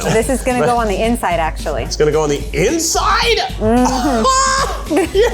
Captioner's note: laughs